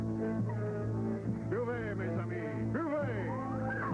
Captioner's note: speaking french